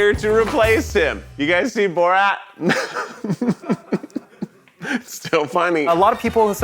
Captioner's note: laughs